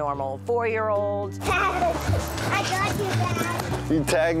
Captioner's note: laughing